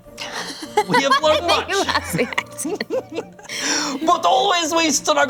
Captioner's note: laughs